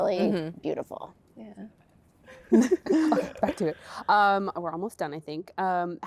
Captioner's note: laughter